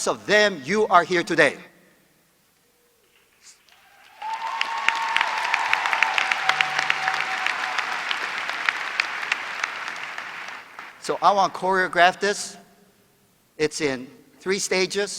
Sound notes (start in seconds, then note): 3.6 applause